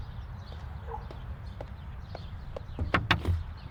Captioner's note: footsteps; knocking